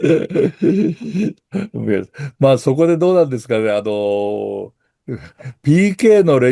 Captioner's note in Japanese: 笑い